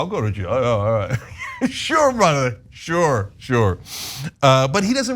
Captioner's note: laugh